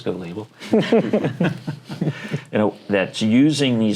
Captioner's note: laughter